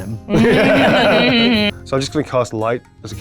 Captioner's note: group laughing